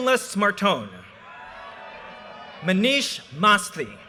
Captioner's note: audience cheers and applause